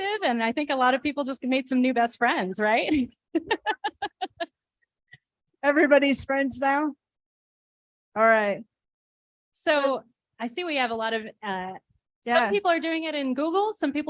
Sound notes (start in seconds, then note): 2.9 laughter